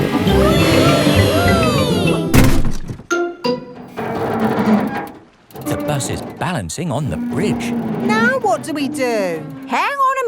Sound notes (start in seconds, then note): 0.2 all cheering; 3.8 creaking